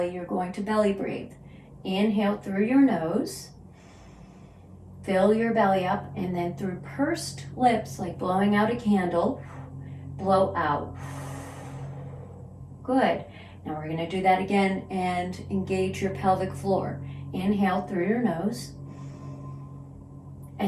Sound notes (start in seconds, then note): 3.6 inhales; 10.8 exhales; 18.8 inhales